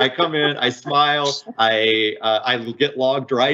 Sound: laughing

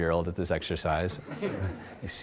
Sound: audience laughs

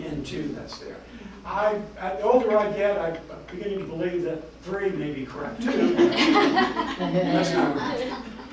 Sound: laughter

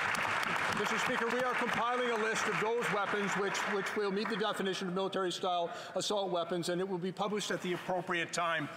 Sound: some Applause

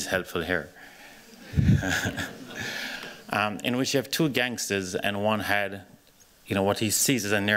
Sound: laughs

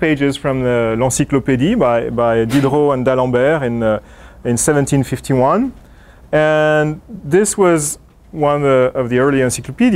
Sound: speaking in foreign language

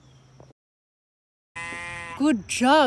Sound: sheep screaming

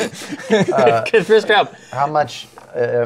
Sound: laughter

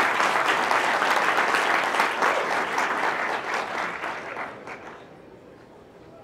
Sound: applause

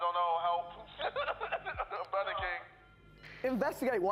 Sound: laughing

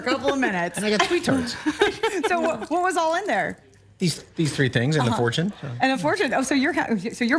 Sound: laughter

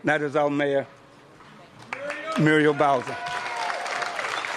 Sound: applause

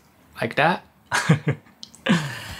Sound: chuckles

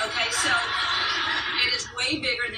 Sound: audience laughter

